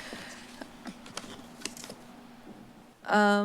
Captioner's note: paper shuffling